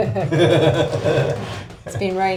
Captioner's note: laughing